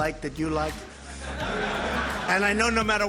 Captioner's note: crowd laughing